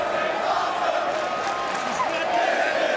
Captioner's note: audience chanting and clapping